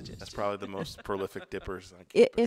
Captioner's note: laughs